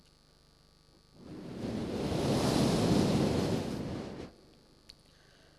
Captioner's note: shri mataji blows into the microphone